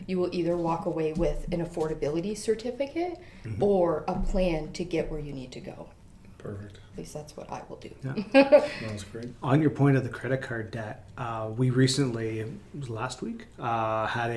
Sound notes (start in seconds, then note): 8.5 laughs